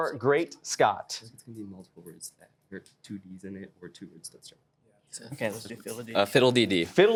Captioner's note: whispering